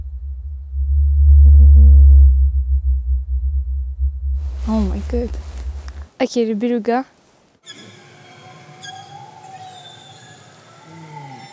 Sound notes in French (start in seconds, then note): 4.6 vibration sonore